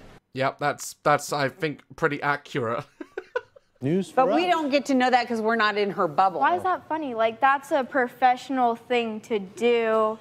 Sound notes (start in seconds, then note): 2.8 laughs